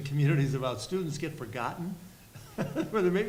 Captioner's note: laughs